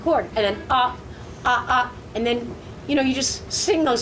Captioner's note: very high pitched rhythmic grunts